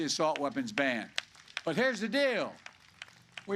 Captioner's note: applause